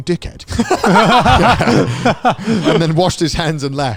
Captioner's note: all laughing